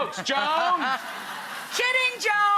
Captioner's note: audience and Rachael laughing